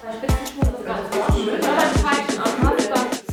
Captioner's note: babble of voices